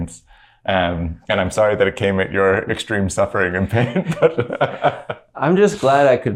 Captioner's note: laughter